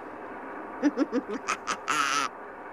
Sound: Bart laughs

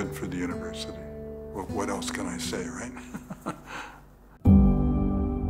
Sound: laughs

